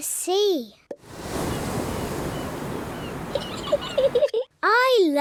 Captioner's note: wave noises; seagulls shriek; giggles